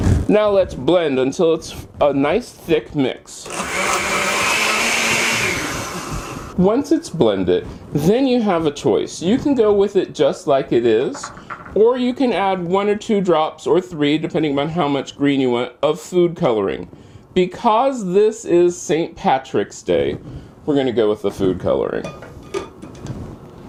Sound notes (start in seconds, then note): 3.4 blender noise